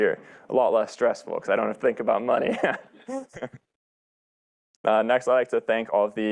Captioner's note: laughs